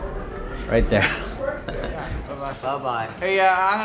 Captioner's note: laughs